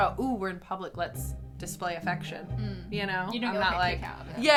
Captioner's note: none